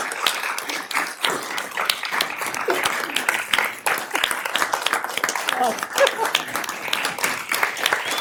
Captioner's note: cheers and applause